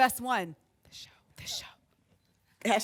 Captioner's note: whispering